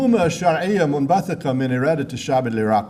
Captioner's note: speaking in foreign language